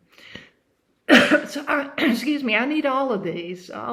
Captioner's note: coughs